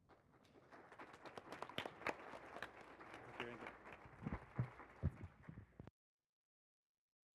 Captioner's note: applause; silence